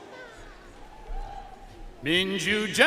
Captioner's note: audience cheering and applauding